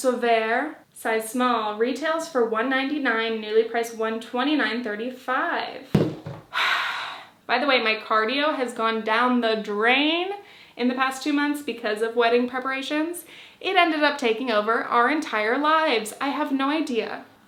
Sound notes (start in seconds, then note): 6.5 sighs